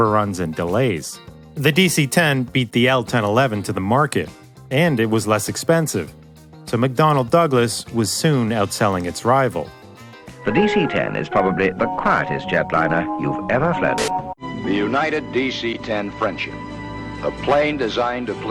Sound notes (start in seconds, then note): 10.4 television